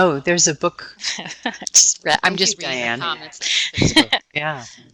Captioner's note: laughing